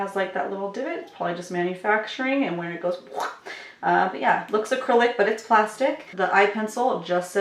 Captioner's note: quuesh